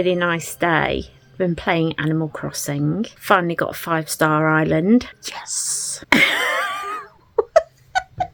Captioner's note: laughs